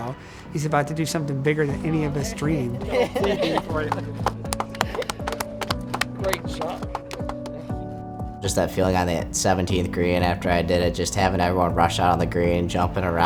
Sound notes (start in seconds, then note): 2.8 laughing